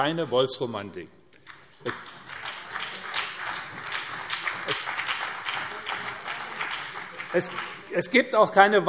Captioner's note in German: Beifall BÜNDNIS 90/DIE GRÜNEN und CDU